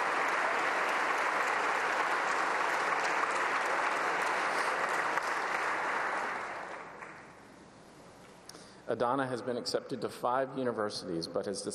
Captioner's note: applause